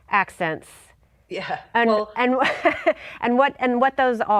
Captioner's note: laughs